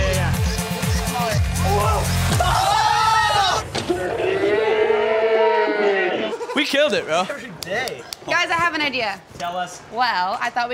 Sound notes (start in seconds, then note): 2.3 screams; 3.9 slowed screaming; 7.5 hands clap